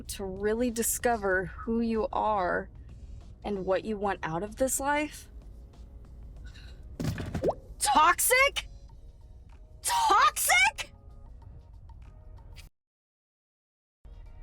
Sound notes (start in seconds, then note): 6.9 phone rattles; 7.0 text bubble pops